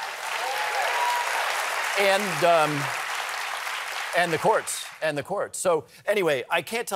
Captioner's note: cheers and applause